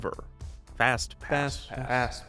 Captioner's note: music; echoing